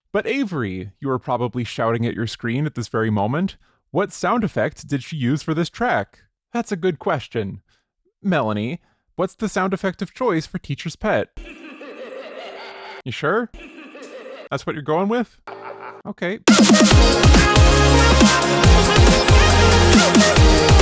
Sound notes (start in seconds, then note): 11.3 muhahahahaha